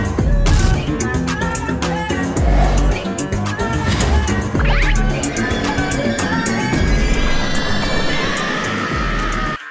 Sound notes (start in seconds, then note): 6.6 Snowgrave noises intensifies